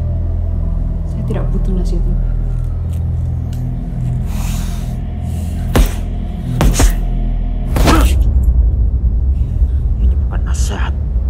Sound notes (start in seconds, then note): 5.6 punching sounds; 7.1 MACAN growls